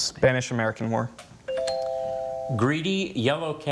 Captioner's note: tone chimes